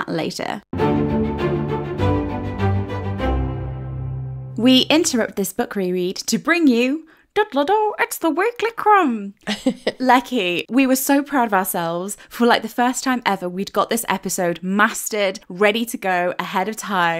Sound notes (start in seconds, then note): 0.7 upbeat music; 9.4 laughing